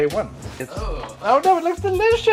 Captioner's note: groaning